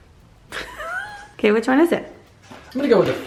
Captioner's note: laughing